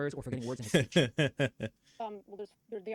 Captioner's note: laughs